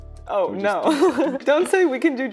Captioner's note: laughing